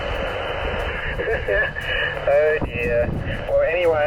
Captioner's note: laughs